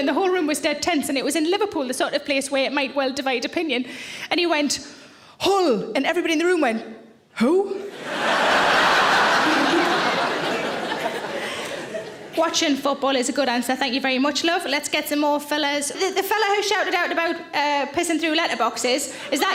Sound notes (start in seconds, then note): 7.9 audience laughs